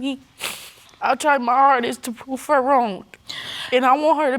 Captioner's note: sniffles